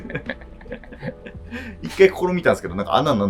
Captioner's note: laughing